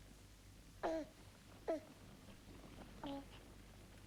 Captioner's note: baby cooing